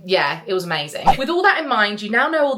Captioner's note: screen fwipping